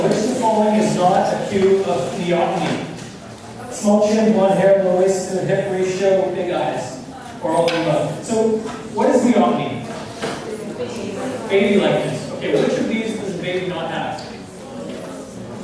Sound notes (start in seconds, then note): 11.4 voiceover